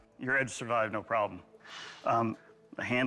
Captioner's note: exhales